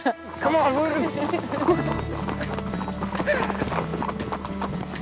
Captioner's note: horses galloping; laughs